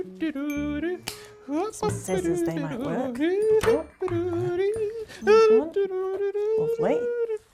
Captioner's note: Dilly hums "I like the</b> <b>flowers"